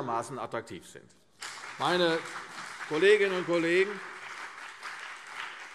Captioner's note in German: Beifall CDU und BÜNDNIS 90/DIE GRÜNEN